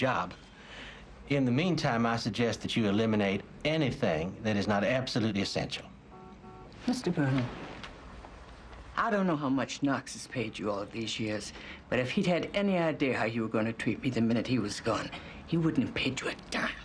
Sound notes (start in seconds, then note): none